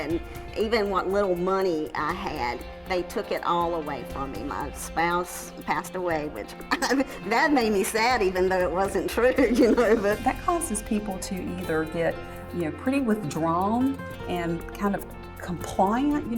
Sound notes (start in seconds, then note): 6.6 laugh